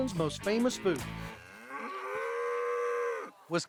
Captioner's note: mooing